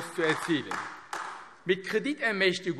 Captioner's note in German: Beifall AfD